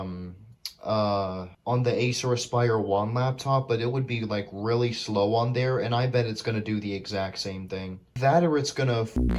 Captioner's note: tch